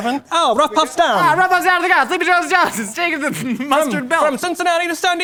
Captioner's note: blabbers